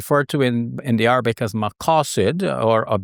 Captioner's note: speaks foreign languages